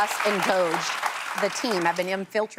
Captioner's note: applause